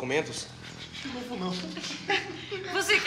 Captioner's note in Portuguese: Risadas